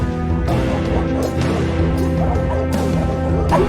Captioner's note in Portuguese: Cachorros latindo